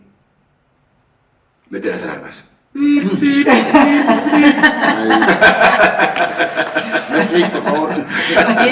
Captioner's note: laughter